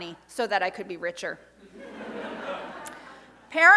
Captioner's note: audience laughs